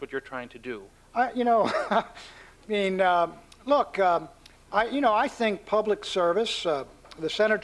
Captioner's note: laughs